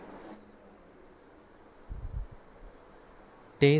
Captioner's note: inaccurate silence - takes time to pick a bite guys